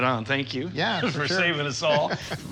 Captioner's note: chuckles